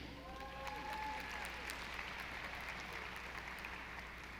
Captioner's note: audience applauding